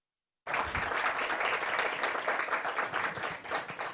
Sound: applause

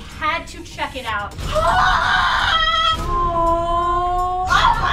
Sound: screaming

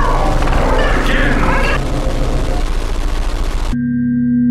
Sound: sound distortion

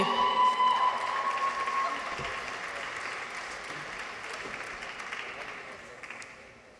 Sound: people cheer; audience applauds

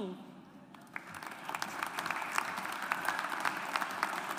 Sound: audience applauds

